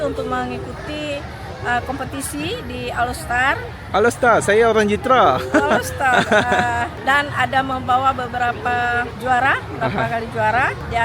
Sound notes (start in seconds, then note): 5.3 laugh